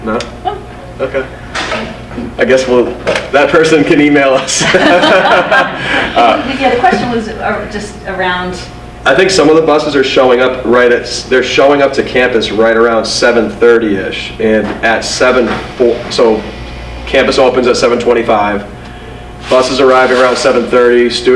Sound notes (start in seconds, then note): 4.4 laughter